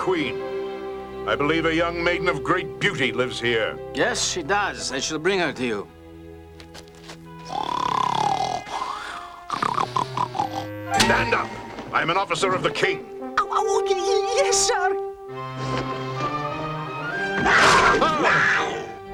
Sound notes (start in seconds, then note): 7.4 Moki snoring; 17.3 panther roars